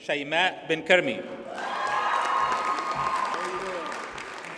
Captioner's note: audience cheers and applauds